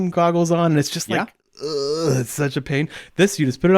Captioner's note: groans